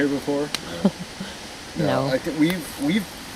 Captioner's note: chuckles